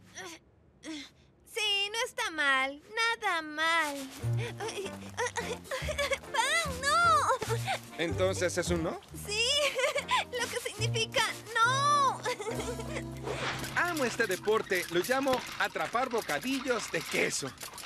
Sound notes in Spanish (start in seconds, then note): 11.9 riendo